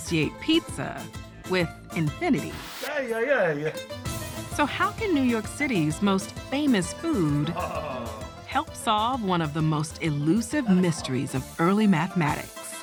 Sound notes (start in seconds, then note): 7.3 chortles